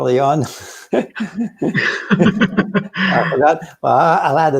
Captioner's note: both laughing